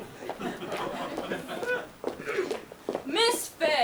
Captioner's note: audience laughs